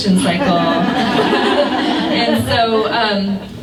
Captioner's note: laughter